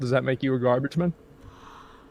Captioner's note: gasps